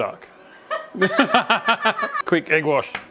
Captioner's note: laughing